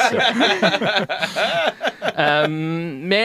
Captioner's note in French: rires